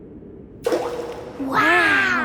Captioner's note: rock plops